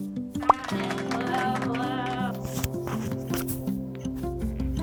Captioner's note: crowd applauds